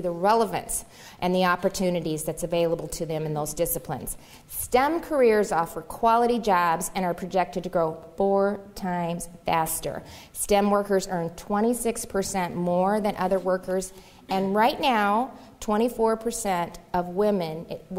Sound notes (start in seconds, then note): none